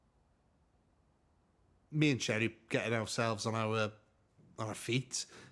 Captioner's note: none